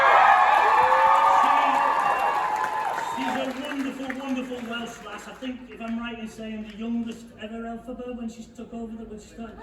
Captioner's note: loud cheering